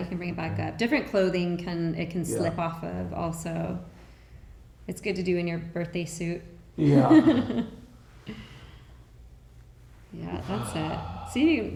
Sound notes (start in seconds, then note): 6.8 laughing